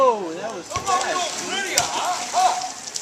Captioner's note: yelling